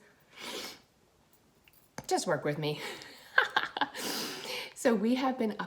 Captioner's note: sniffles; laughs